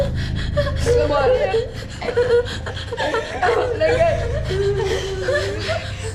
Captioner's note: both sobbing; Mindy sobbing and speaking indistinctly